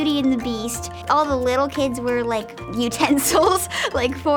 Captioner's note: laughs